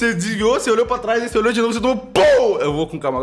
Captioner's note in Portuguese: Pow